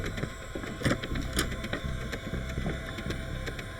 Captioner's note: door clicks